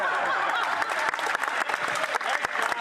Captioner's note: laughter